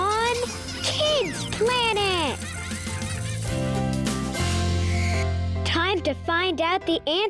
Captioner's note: children laughing